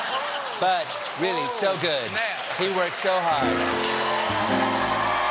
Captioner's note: laughter